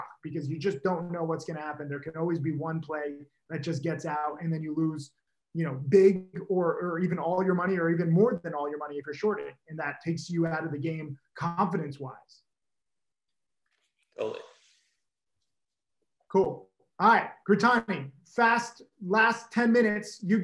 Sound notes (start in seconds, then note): none